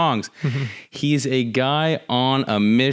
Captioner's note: chuckles